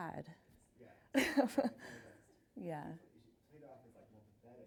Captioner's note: chuckles